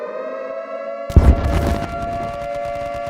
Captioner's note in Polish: syreny alarmowe, strzały